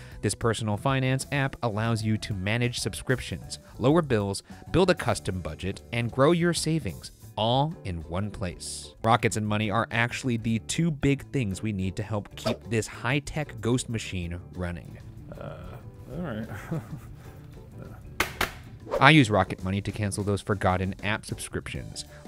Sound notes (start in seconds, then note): 16.4 chuckles; 18.2 bangs on helmet